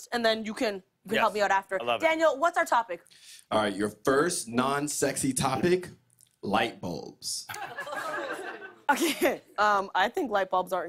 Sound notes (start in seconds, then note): 6.5 light laughter